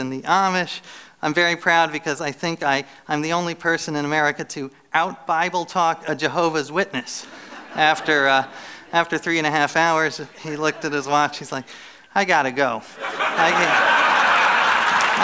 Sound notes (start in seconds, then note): 7.2 laughter; 12.9 laughter